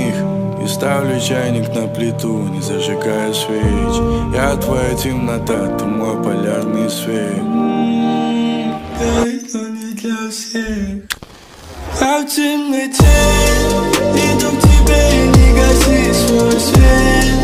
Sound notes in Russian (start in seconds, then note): 7.8 М-м-м